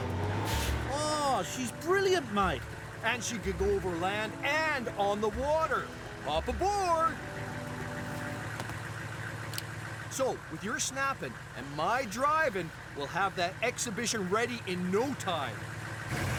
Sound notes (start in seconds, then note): 9.5 click